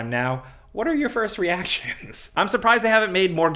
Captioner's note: laughs